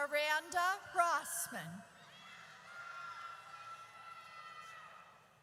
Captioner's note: audience cheers